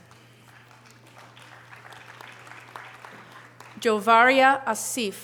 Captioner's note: audience applause